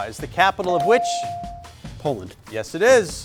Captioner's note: buzzer chimes